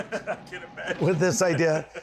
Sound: laughter

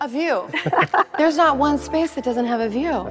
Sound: chuckling

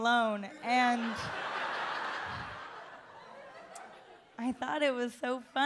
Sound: audience laughs

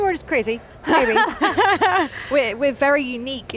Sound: laughter

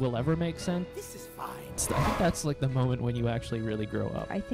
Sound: whoosh

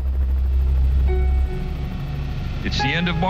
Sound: helicopter whirs

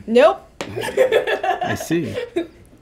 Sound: laughing

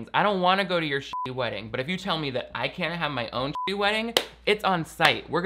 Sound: beep; beep

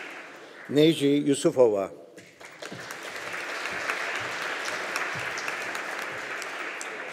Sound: audience applauding

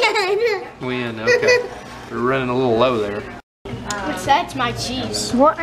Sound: laugh

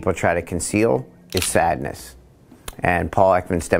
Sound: camera clicks

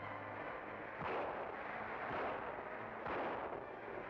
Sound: gun firing

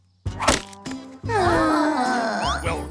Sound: groaning

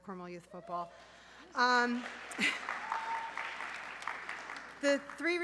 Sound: audience cheering

